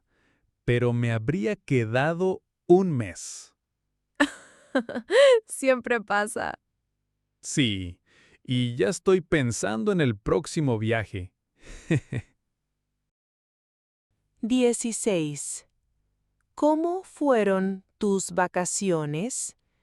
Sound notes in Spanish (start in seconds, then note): 4.2 risas